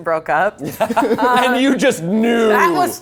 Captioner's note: laughs